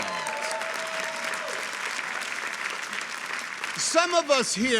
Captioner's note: people clapping